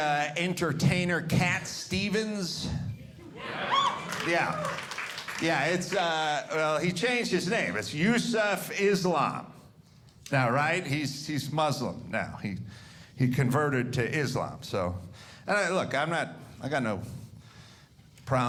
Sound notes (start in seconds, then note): 3.2 audience cheering